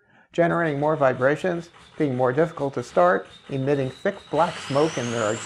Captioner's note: sound of engine starting